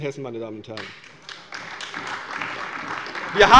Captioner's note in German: Beifall bei der CDU und dem BÜNDNIS 90/DIE GRÜNEN